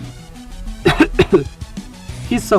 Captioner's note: cough